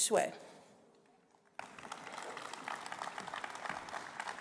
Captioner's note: applause